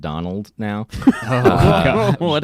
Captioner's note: laughing